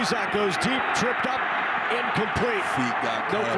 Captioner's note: fans cheer